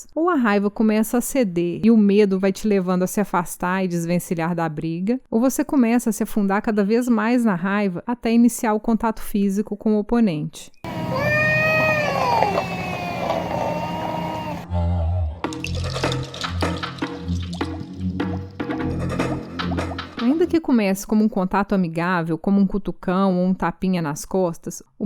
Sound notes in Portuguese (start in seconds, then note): 10.9 sons de gatos brigando